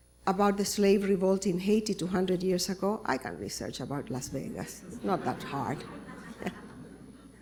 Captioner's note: laughter